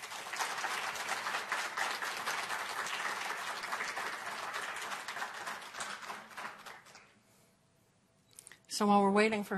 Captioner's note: applause